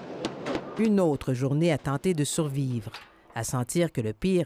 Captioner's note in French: coups de marteau